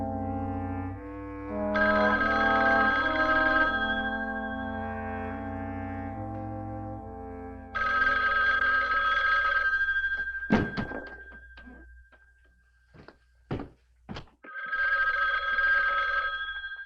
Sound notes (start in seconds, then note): 1.8 phone ringing